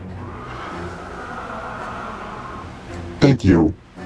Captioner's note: creature growling